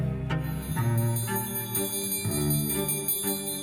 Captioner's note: dinner bell ringing